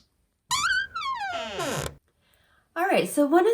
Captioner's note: door squeaks